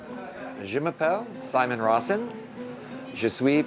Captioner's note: speaking french